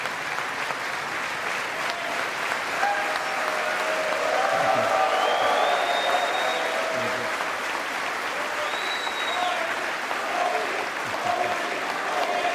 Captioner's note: applause